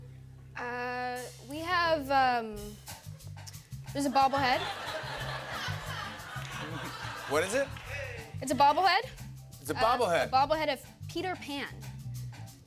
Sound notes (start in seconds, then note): 4.2 laughter